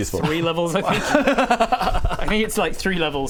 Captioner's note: offensive laugh